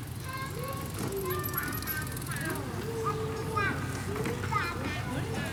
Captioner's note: children murmuring